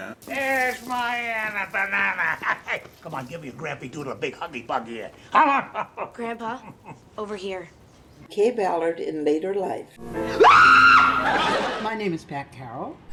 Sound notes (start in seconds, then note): 10.3 screams